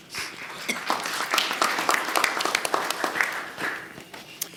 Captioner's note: audience applauding